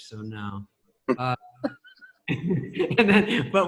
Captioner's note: laughs